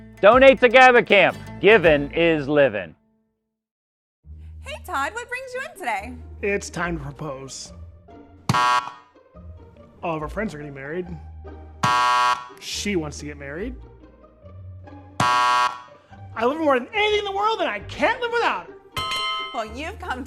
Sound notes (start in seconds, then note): 8.4 buzzer buzzing; 11.8 buzzer buzzing; 15.2 buzzer buzzing; 19.0 bell dinging